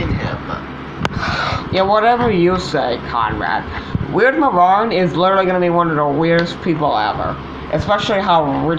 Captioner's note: sighs